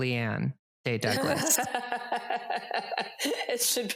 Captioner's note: laughs